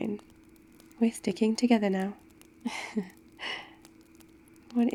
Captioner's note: laughs